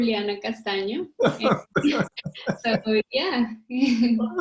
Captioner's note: laughs loudly